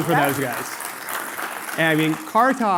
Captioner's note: applause